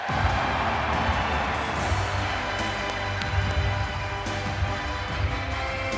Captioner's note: audience clapping; upbeat music